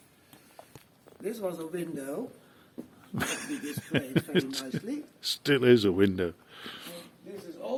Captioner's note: laughing